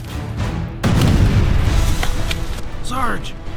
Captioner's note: explosion bangs